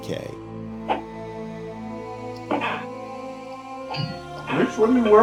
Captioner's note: computer game sound effects